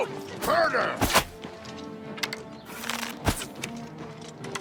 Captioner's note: arrow whooshing